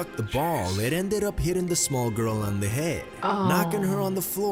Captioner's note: voice-over